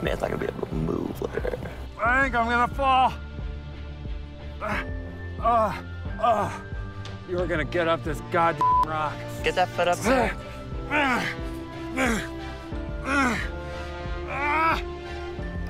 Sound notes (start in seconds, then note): 4.6 grunts; 8.6 beep; 12.0 grunts